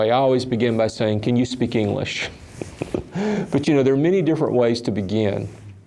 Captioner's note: laughs